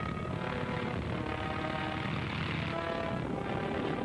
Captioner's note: motor rumbling; dramatic music